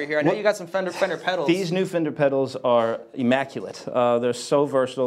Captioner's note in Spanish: none